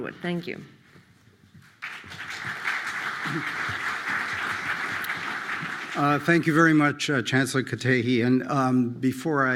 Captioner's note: applause